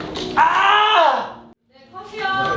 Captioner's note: argh